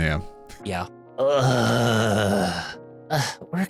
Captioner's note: groaning